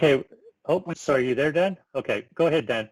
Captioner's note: murmurs